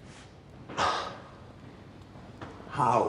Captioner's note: <i> sighs</i>